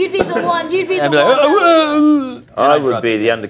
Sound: talks in gibberish

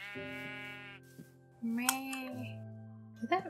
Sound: imitates sheep

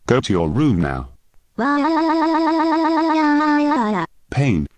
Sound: crying like a female Japanese Voice

